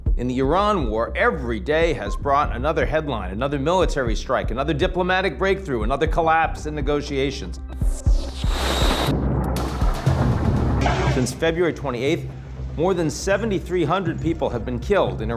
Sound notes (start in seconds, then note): 7.6 tense music; 8.9 explosion booming